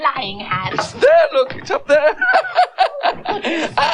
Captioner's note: laughs